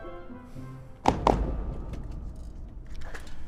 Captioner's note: Law & Order-esque transition sound